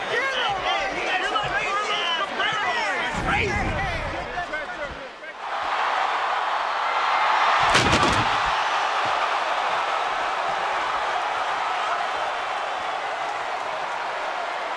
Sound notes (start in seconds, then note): 5.9 audience cheering; 7.6 bodies thud; 9.6 audience cheering and clapping